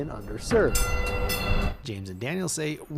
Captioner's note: train bell